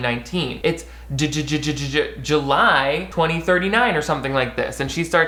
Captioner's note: stutters